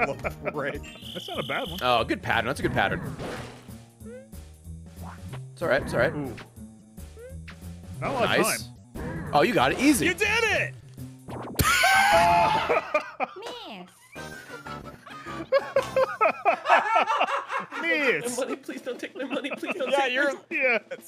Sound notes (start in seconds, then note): 13.6 screams